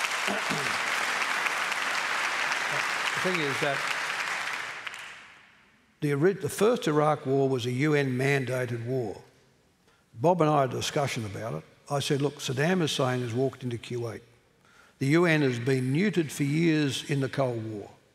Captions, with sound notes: [ Applause ] Thing is that. [ Applause ] The original, the first Iraq war was a UN mandated war. Bob and I had a discussion about it. I said, "Look, Saddam Hussein has walked into Kuwait. The UN has been muted for years in the cold war.